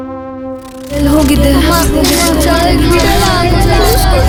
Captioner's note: distorted Voices